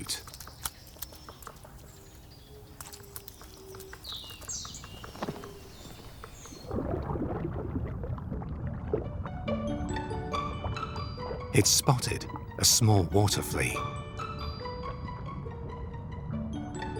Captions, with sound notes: (bird sings) (water sloshes) (playful music) It's spotted a small water flea. (playful music)